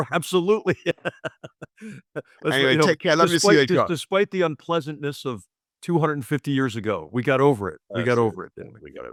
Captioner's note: laugh